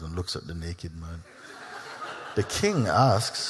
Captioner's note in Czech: Smích